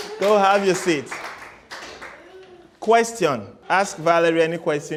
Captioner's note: applause